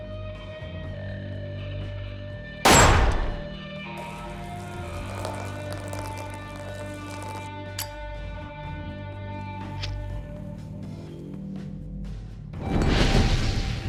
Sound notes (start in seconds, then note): 2.6 gunshot; 7.6 clicks